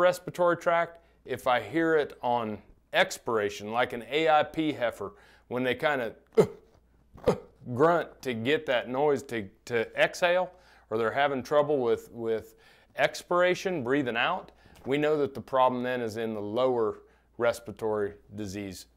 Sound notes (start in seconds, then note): 7.2 makes grunting noise